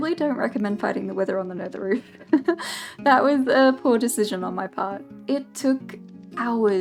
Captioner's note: laughs